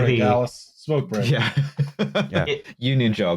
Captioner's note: laughs